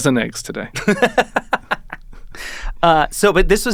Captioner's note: laughing